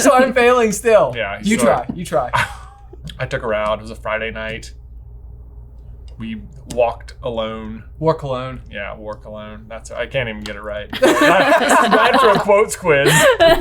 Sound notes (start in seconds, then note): 2.5 scoffs; 10.9 all laughing; 13.0 laughing